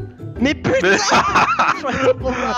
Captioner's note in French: rires